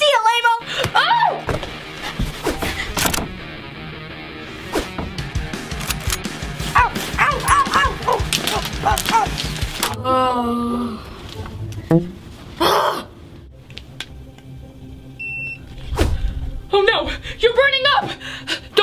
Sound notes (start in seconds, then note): 1.8 rock music playing; 3.1 launcher cocking; 9.8 groaning; 15.1 thermometer beeping